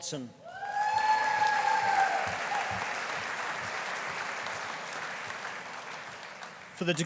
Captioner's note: audience cheering; audience applauding